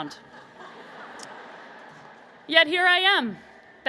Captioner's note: laughter